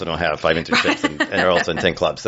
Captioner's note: laughs